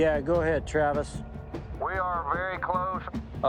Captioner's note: over walkie